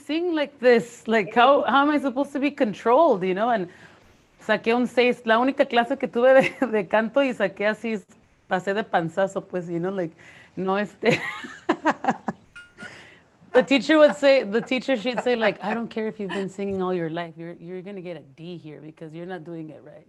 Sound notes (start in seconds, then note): 11.0 laughter